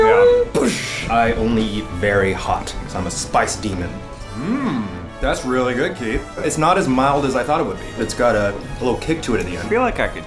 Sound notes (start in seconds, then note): 0.9 makes explosion noise